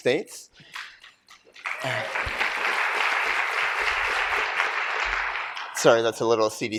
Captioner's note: applause